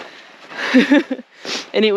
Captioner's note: laughter